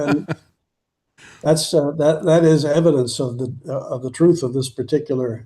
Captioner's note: laughing